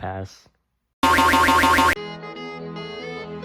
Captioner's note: boi-oi-oing sound effect x6!!!